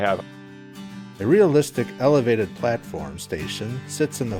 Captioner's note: voiceover